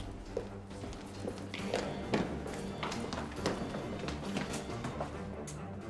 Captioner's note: footsteps pattering; tense music